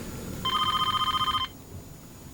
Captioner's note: phone rings